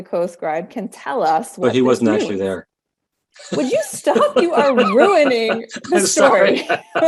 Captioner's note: laughing